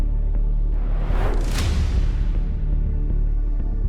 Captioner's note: air whooshes